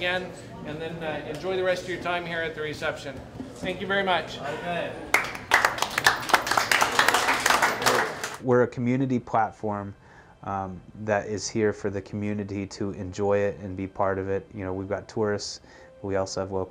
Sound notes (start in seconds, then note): 5.1 clapping